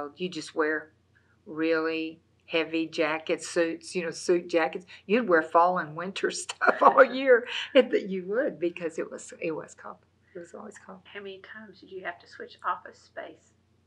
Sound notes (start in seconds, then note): 6.5 laughs